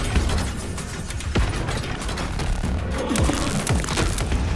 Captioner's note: grunts